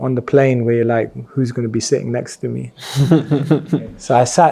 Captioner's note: laughs